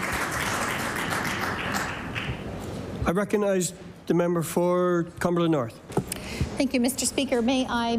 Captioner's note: applause